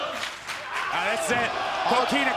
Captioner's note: fans chanting